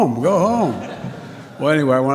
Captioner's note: laughter